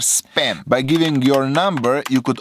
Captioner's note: typing